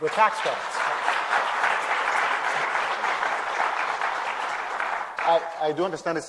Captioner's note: applause